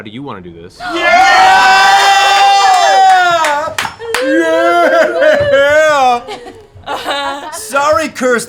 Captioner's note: cheering